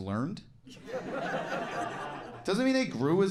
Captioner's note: audience laughing